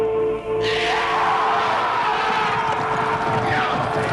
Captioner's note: raiders shouting